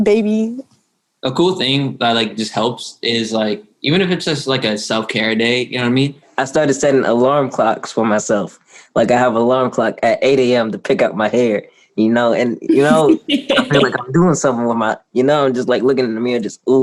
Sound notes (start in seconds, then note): 12.8 laughter